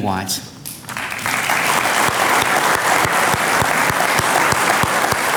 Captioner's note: audience clapping